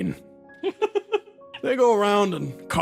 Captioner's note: laughs